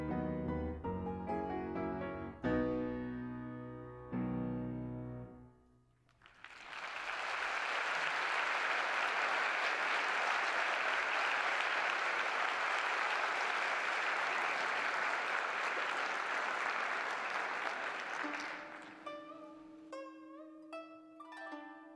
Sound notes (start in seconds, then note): 5.8 applause